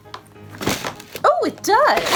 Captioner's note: closing suitcase